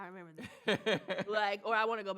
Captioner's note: laughs